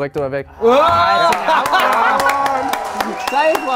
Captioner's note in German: Jubel, Applaus